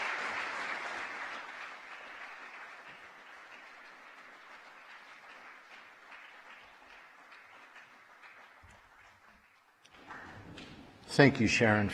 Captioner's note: applause